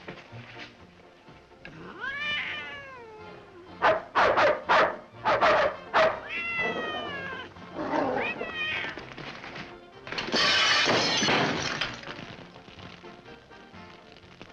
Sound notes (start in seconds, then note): 1.7 cat meows; 3.8 dogs bark; 6.2 cat meows; 7.6 dogs growling; 10.1 lamp smashes & explodes